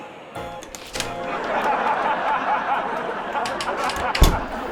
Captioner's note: audience laughter on tv show